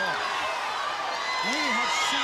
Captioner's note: crowd chatter